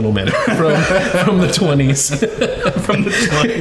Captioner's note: everyone laughing